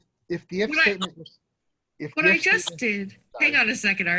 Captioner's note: both conversing